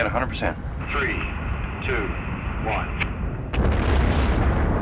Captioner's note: man On Radio